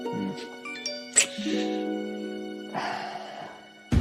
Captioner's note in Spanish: Alerta de mensaje entrante